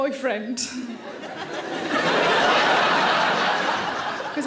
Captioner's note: audience laughing